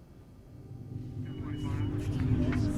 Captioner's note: ominous music; police radio chattering; group chattering